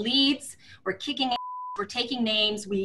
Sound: beeping sound

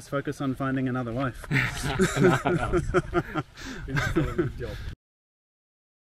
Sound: laughing

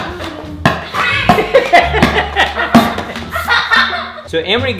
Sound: laughter

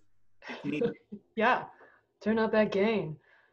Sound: chuckles; speaks faintly

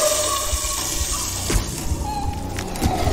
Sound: choking; footsteps

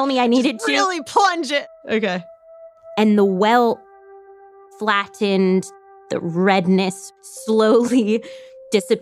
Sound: laughs

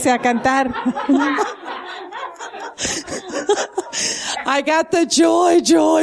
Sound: laughter

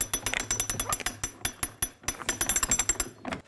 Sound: rattling

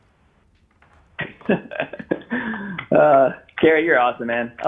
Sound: laughing

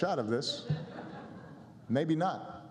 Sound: laughter

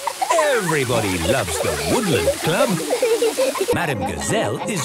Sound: laughter

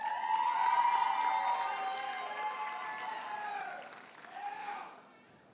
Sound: audience cheers and applauds

